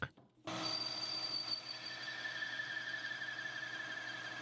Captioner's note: machinery whirring